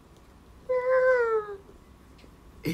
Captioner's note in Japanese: 高い声で